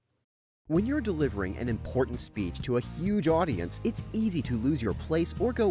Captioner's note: voiceover